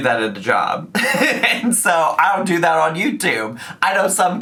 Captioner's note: laughs